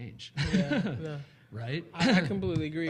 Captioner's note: laughing